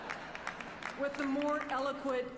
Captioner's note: applause